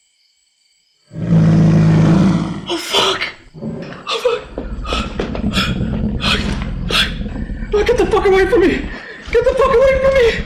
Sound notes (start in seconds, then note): 2.3 eerie groaning; 4.5 heavy, grunting breaths